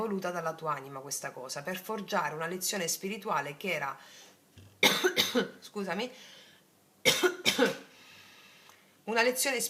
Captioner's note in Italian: tosse